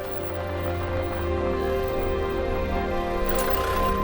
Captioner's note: tires crunching